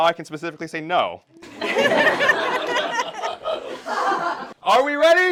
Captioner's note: laughter